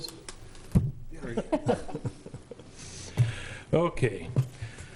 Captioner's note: laughs